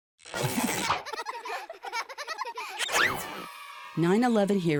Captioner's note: children laughing